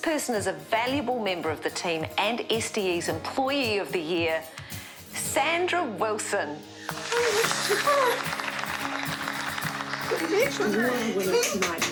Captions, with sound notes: this person is a valuable member of the team and SDE's Employee of the Year — Sandra Wilson. Oh my God! (CHEERS AND APPLAUSE)